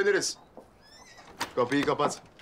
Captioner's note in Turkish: Hayvan sesi